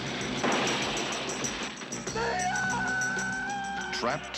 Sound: screaming

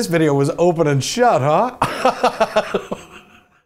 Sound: laughs

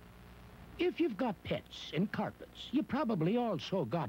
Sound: slight Irish accent

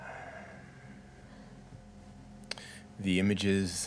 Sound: deep sigh

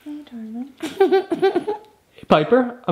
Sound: cries

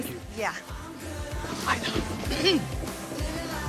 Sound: clears throat

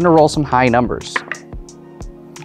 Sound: dice clattering

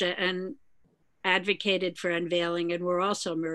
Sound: none

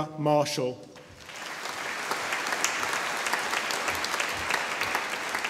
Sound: audience applauding

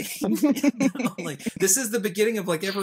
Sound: laughing

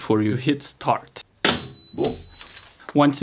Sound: machine beeps

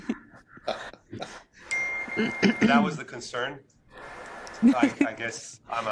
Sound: laughter; laughter

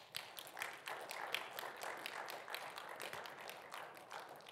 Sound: audience applauding

